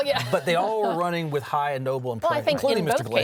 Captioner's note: laughs